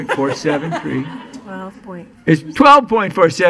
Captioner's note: laughing